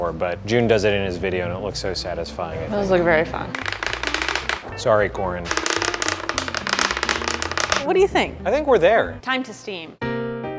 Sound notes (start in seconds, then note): 3.8 cutting noises